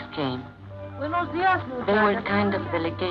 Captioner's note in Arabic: امرأة تتحدث الإسبانية